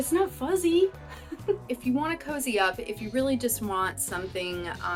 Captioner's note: laughter